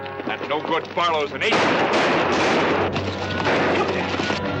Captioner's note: gunshots